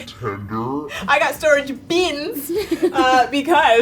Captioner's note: giggles